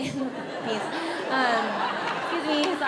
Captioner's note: audience laughs